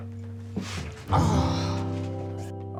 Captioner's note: grunts